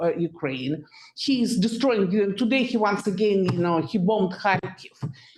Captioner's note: audio blurs